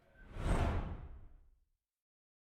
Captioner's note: transition sound